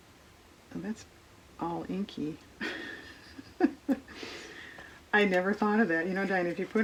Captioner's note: laughs